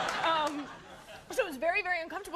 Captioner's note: crowd laughs